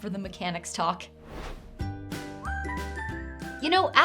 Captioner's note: whoosh; lively music